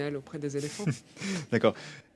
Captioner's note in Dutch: lacht